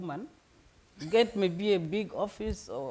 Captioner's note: laughing